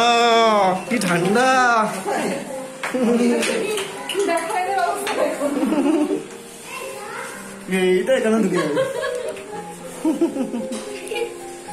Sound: children laughing

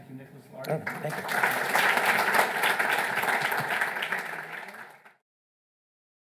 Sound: audience applauding

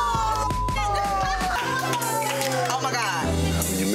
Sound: beep; hands clapping

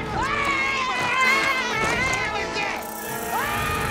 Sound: screaming

